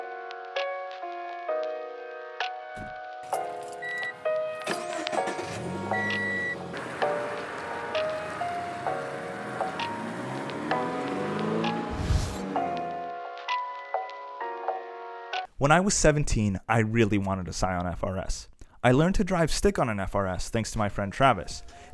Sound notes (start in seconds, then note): 0.1 door thunks; 7.9 engine starts